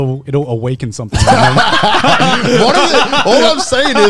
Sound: laughing

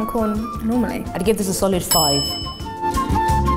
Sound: bell dings; lively music

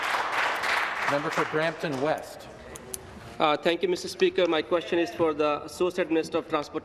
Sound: applause

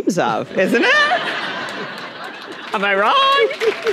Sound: audience laughing; audience applauding

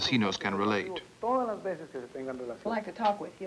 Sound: non-English speech

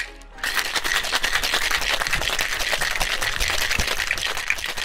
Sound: ice clanging

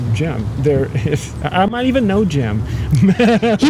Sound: laughing

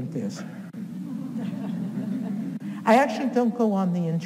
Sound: audience chuckles

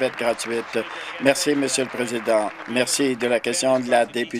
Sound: applause

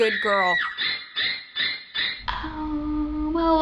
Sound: in video: shrill scream, Psycho theme

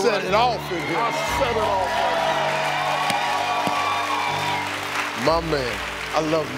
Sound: audience clapping

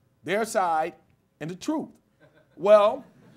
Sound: laughter

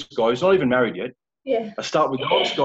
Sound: chuckling

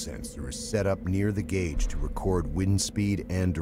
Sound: voiceover

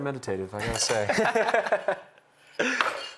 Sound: laughter

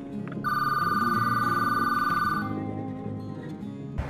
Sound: phone rings

